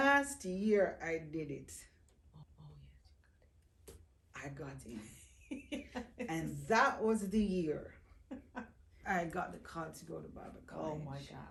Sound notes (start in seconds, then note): 5.4 laughing